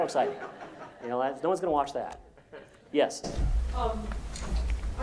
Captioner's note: laugh